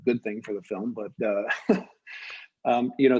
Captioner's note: chuckles